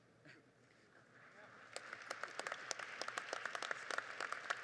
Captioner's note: audience applauding